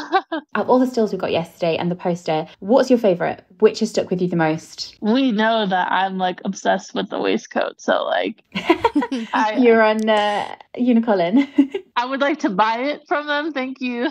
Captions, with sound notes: - Out of all the stills we've got yesterday, and the poster, what's your favorite? Which has stuck with you the most? - We know that I'm obsessed with the waistcoat, so like. (laughing) - You're on UniColin. - I would like to buy it from them, thank you.